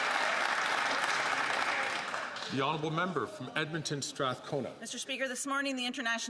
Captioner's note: some Applause